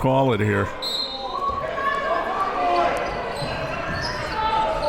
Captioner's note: whistle blows